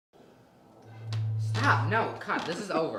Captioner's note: blows the top of the bottle making a whistle sound